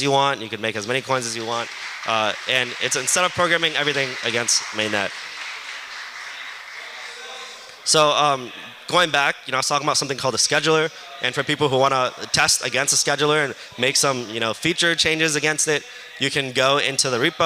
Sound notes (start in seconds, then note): 5.2 applause